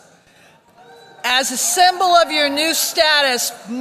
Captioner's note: applause